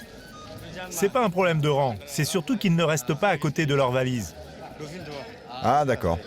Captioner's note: both speaking foreign language